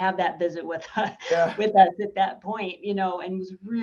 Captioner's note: chuckles